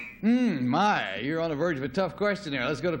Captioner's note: buzzer